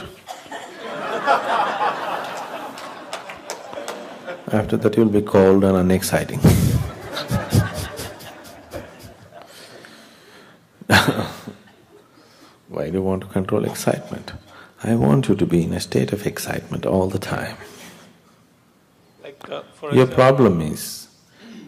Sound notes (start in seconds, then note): 0.4 laughter/Applause; 9.5 laughter